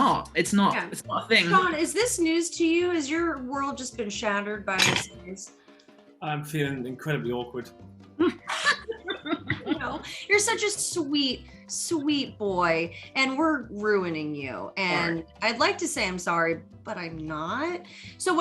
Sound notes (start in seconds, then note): 8.2 laughing